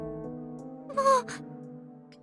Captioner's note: whimper